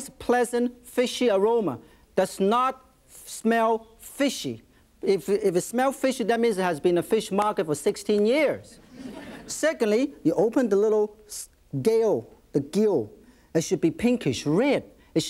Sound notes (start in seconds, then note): 8.8 audience laughs